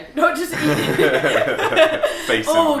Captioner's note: laughs